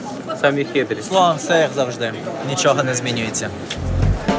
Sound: crowd noise

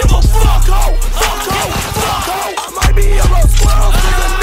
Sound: demonic gunshots

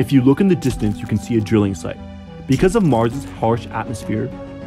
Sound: machine noises

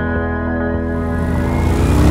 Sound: motorcycle engine revs

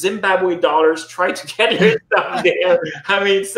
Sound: laughing

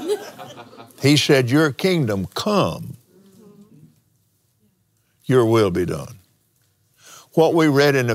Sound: laughs

